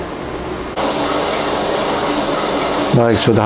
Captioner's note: printer machine sound